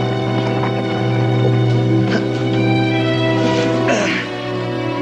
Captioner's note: grunting